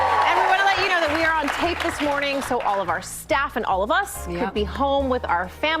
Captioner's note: cheers and applause